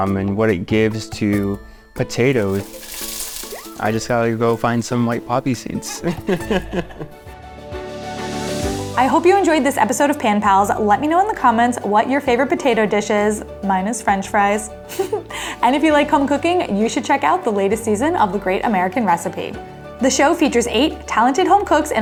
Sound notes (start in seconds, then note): 5.7 laughs; 7.4 light upbeat music; 15.0 laughs